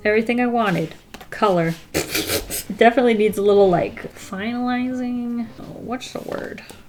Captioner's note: laughs